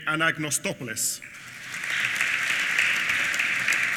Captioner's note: applause